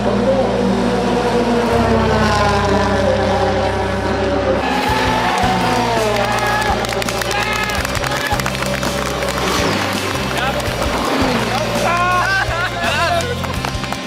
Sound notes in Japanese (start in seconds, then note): 4.5 歓喜